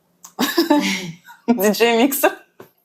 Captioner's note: laughs